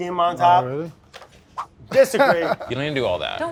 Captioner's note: laughing